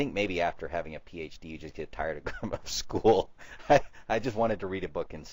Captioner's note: laughs